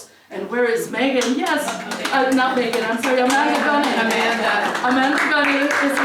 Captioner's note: applause